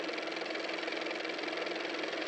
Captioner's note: car motor